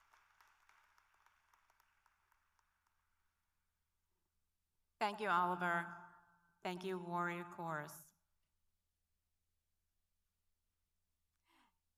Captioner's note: applause